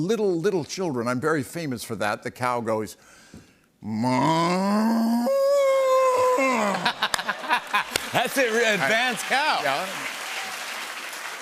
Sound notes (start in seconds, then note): 6.6 laughter and applause